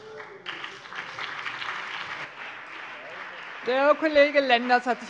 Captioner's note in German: Beifall BÜNDNIS 90/DIE GRÜNEN und vereinzelt CDU